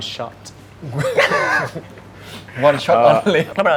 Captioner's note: laugh